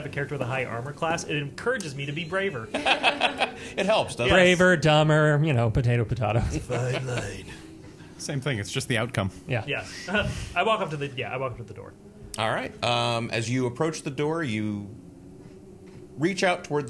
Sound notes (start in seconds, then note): 2.6 laughing